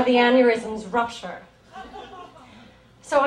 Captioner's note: audience chuckles